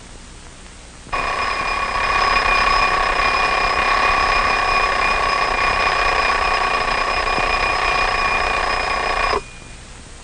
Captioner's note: alarm clock ringing